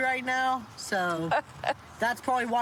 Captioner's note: laughs